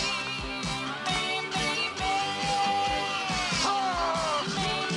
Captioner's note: Возбужденный стон